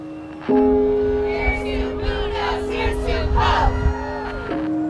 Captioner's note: chanting